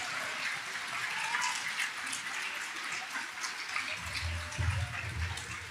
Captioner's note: audience applauding